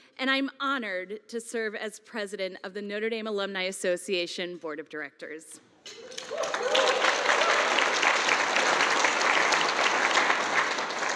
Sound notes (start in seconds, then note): 5.9 audience cheering